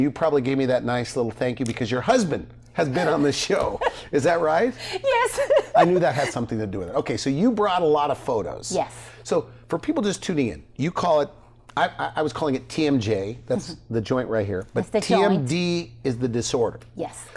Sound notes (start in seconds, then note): 5.0 laughs